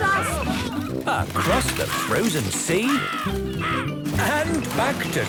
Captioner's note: birds cawing